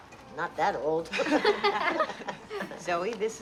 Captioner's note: laughing